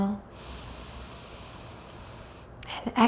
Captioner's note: deeply inhales